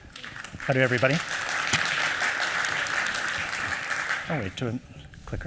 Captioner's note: applause